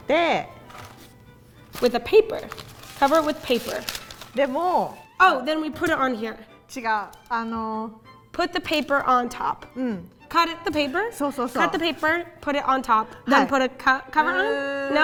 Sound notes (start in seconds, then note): 0.2 speaking in Japanese; 4.4 speaking in Japanese; 6.7 speaking in Japanese; 11.3 speaking in Japanese